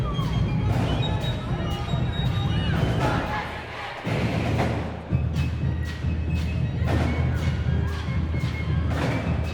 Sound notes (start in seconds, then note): 0.7 crowd chanting